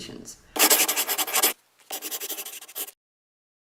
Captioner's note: scribbling